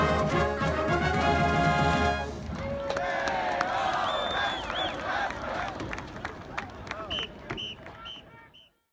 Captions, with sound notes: - [Crowd] Hey, ho! Faster, faster! (whistle blowing)